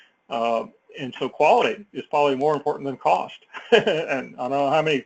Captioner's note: laugh